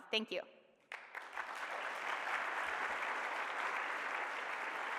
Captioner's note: applause